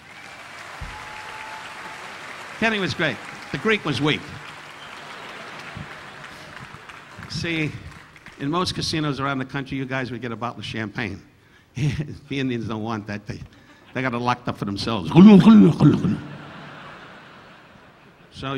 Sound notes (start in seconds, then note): 0.2 audience applauding; 4.7 audience laughing; 13.5 Don chuckling; 15.1 Don glugging alcohol; 15.7 audience laughing